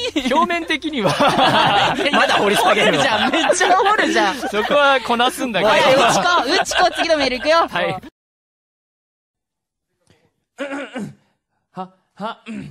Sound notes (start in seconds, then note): 5.3 laugh